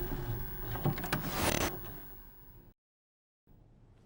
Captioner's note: static